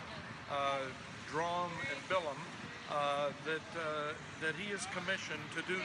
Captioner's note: italian